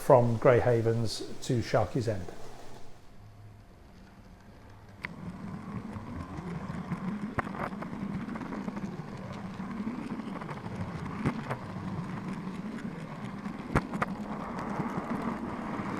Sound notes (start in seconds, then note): 3.3 sound of train moving